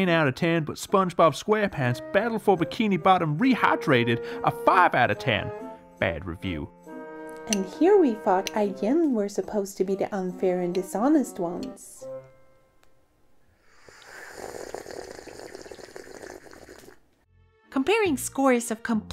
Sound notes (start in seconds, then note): 13.6 slurps loudly on mulled wine